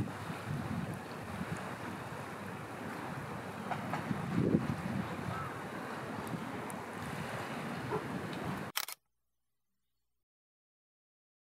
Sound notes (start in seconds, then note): 8.7 shutter clicks